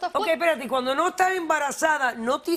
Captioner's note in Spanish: habla en portugués